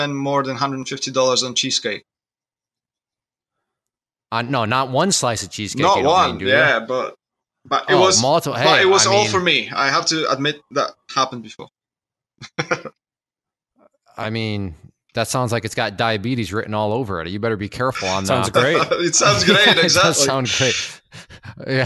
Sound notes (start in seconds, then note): 12.4 laughs